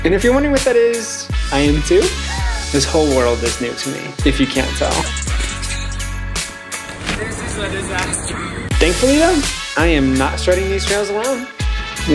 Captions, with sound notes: And if you're wondering what that is, I am too. (chuckling) This whole world is new to me, if you can't tell. This is a disaster. Thankfully though, I am not strutting these trails alone.